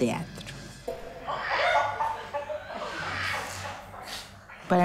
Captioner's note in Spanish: Graznidos de aves